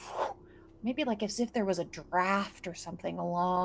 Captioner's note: imitates swooshing sound